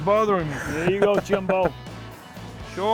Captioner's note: laughs